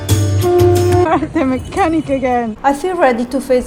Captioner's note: laughing